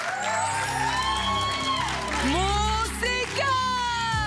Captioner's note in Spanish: Aplausos